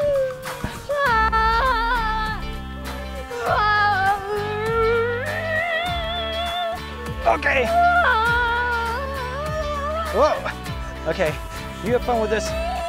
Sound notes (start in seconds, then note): none